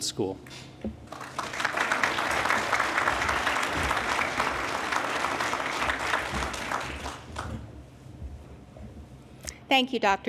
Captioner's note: applause